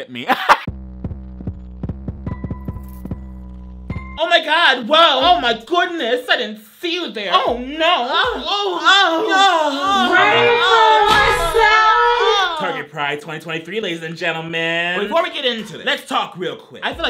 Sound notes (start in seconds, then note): 0.1 laughs; 0.7 pulsing music; 8.2 moans